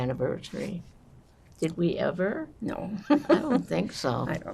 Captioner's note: laughing